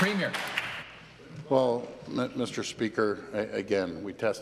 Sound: applause

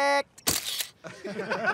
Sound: camera shutters; everyone laughs

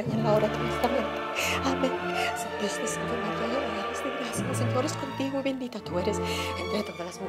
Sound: praying in Spanish

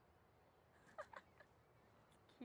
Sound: Lana laughing

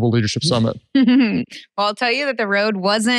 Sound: chuckles

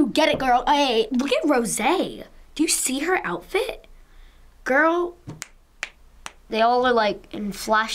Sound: snaps fingers

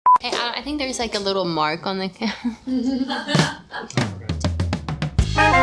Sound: laughs

